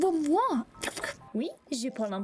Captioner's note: speaking croissant; French snail noises